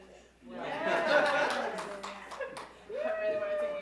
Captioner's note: audience laugh